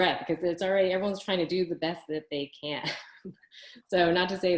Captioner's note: laughs